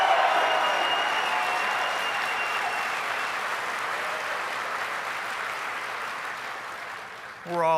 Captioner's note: applause